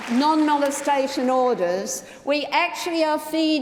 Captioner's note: applause